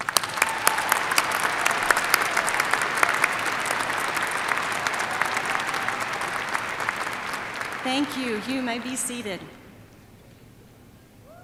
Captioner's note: applause